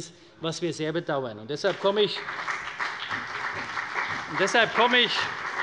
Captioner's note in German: Beifall bei der CDU und dem BÜNDNIS 90/DIE GRÜNEN